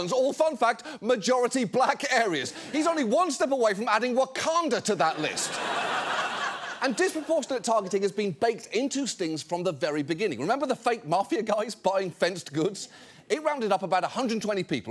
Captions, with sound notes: All, fun fact, majority Black areas. He's only one step away from adding Wakanda to that list. (AUDIENCE LAUGHS) And disproportionate targeting has been baked into stings from the very beginning. Remember the fake mafia guys buying fenced goods? It rounded up about 120 people,